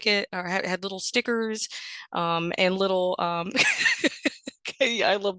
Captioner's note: laughs